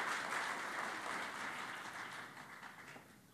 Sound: applause

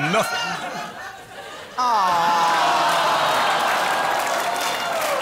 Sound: crowd 'aw'-ing again as reflects upon his life

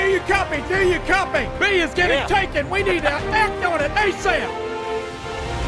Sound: laughing

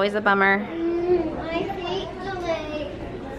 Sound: moans

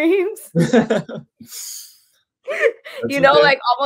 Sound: they laugh

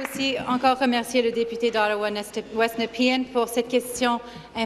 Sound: applause

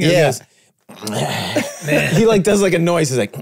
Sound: group groaning

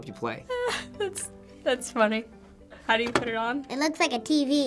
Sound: laughs

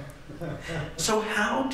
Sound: laughter

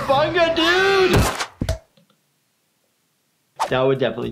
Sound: body thuds; screams

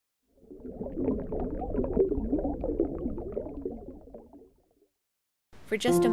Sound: bubbles floating underwater

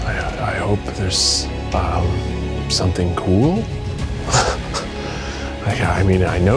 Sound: chuckling

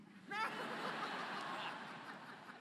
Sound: laughter

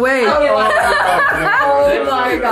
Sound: laughing

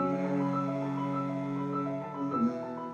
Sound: humming

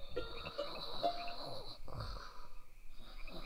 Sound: soft keyboard music; snoring

